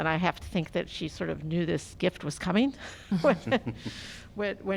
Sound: laughter

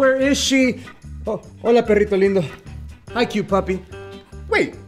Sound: spanish; speaking spanish

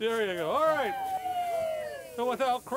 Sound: crowd cheers

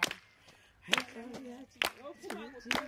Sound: woman speaking in native language

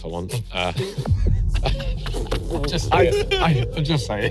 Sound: everyone laughs

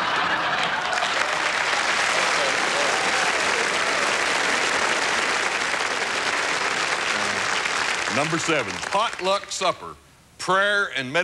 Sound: laughter and applause

